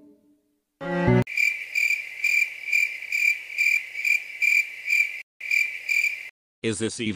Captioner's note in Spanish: grillos